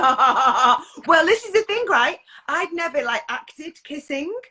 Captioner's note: laughs